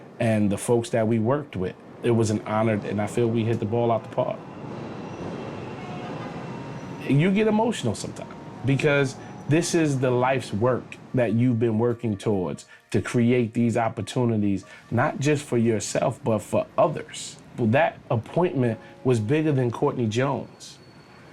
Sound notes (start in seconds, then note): 4.4 cars honking